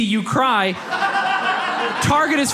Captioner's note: audience laughs